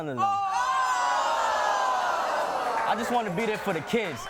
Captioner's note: audience groans